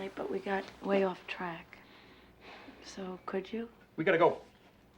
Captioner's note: sighs